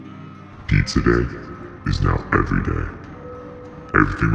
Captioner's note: echoes